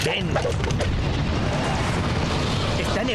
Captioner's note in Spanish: sonidos de traje espacial y lásers